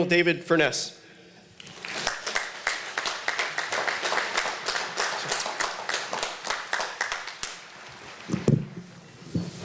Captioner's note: applause